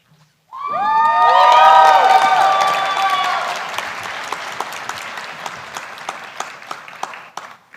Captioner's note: cheering